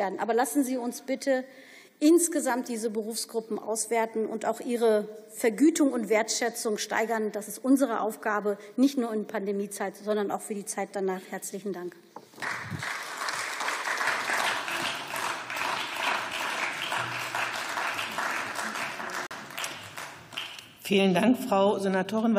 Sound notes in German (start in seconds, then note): 12.3 Beifall